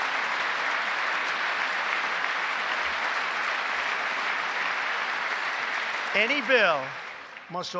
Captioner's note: applause